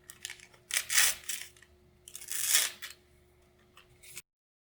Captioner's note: package opening